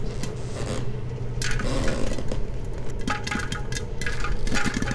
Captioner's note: creaking; popcorn popping